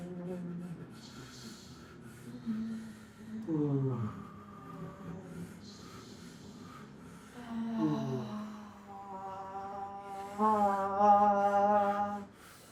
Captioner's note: moaning